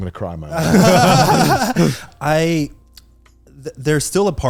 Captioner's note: laughing